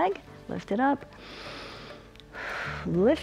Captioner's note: inhales and exhales